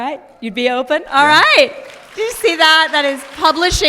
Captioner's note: applause